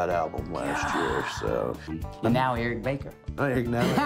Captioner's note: laughs